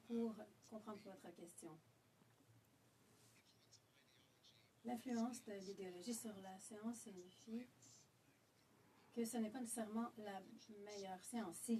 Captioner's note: speaking French